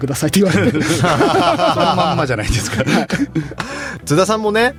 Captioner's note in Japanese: 笑い